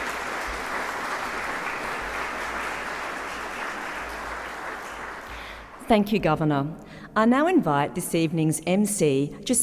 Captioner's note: applause